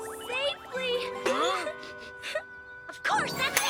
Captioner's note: girl sniffling